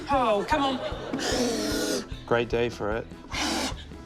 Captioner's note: blows